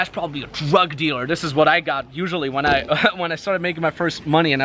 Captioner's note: laughs